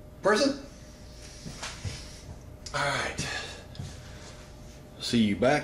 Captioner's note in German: seufz